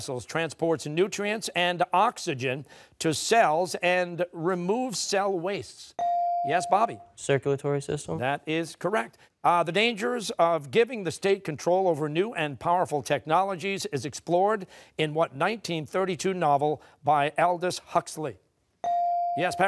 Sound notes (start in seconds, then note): none